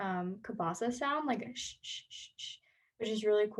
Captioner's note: cabasa sounds immitated by voice